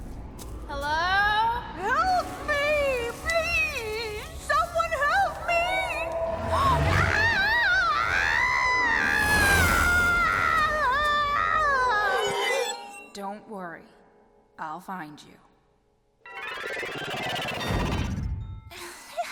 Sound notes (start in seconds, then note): 10.6 gasps; 17.1 laughs